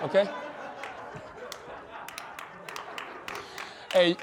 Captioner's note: laughter